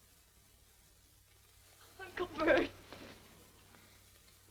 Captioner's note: voice breaking